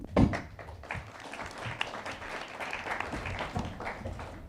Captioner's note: attendees applauding